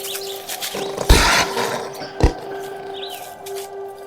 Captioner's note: snarling